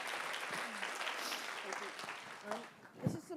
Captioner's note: applause